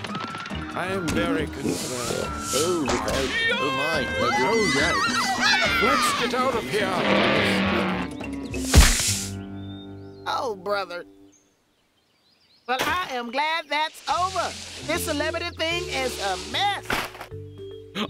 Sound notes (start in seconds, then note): 3.2 screams